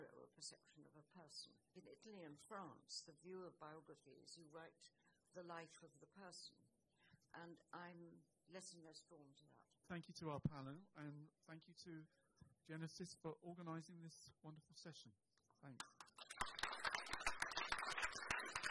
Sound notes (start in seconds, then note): 15.7 appluase